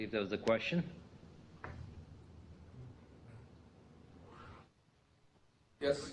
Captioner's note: pause